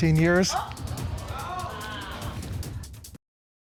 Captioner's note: audience exclaiming